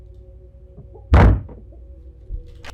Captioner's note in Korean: 쿵!